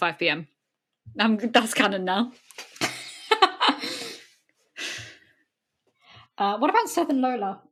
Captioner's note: laughs